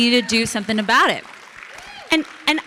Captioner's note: audience clapping